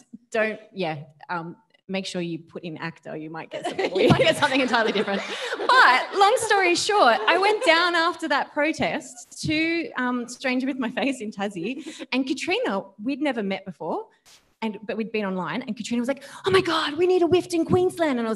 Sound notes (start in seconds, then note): 5.4 audience laughing